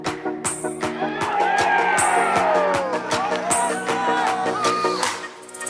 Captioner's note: shouting, cheering